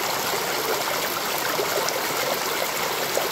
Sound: water gushing

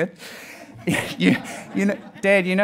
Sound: audience laughing

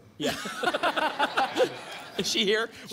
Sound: laughter

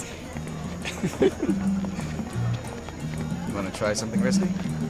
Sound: laughing

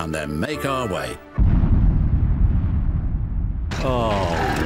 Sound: distant explosion

